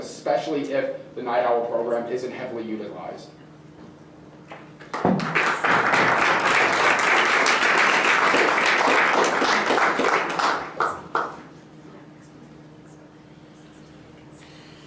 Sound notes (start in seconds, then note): 4.8 applause